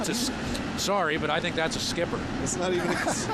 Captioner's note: laughter